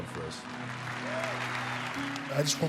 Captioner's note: audience applauding and cheering